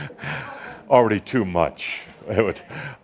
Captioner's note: chuckling